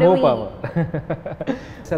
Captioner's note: laughs